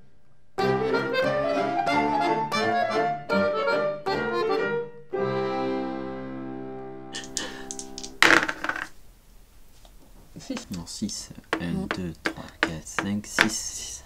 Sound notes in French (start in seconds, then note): 7.2 Bruit de dès secoués puis jetés